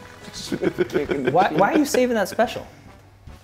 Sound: laugh

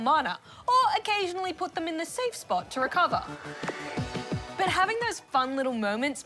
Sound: none

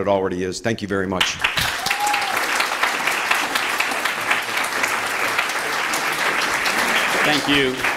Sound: applause

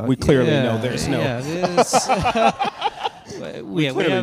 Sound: panelists and audience laugh

